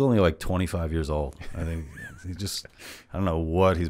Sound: laughs

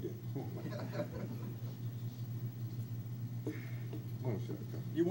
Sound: crowd laughs

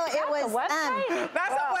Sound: laughter and screaming

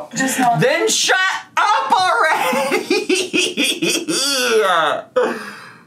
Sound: laughs and groans

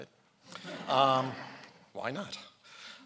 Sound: laughing

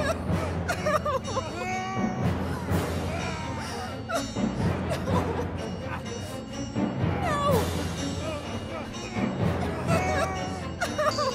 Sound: fighting grunts and soft sobbing

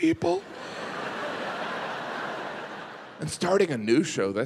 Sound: audience laughing

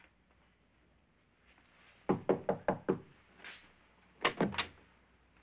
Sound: knocks on door; door opens

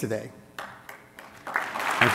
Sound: applause

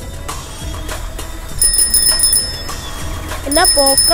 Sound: cycle ring

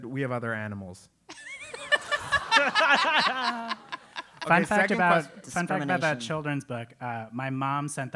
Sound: laugh

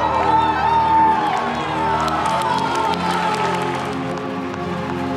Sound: audience cheering and clapping

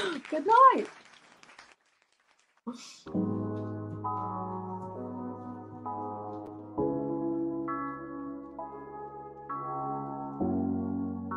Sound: applause

